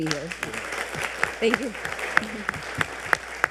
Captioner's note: audience applauding